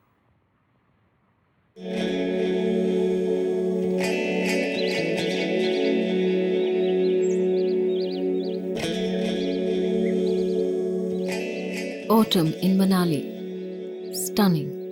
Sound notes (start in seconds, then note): 1.8 gentle music; 2.4 birds chirpping